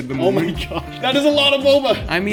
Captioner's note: laughs